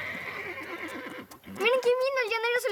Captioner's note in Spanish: Relinchos